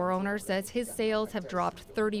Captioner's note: speaking foreign language